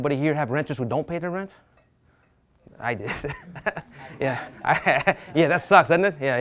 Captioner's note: laughs